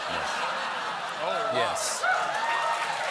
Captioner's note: laughter